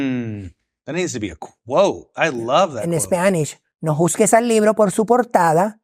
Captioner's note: speaking foreign language